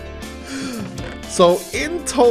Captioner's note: gasp